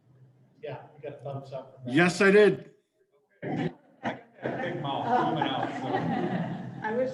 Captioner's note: laughter